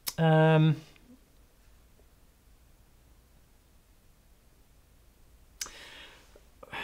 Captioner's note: sighs